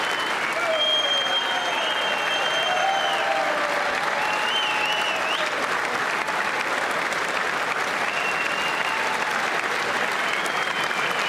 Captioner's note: applause